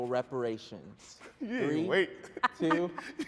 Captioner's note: laughing